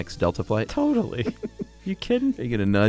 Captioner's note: laughs